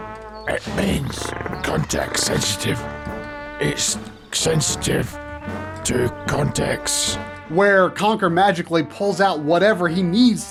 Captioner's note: game audio